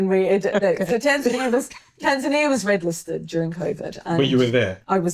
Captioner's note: laughing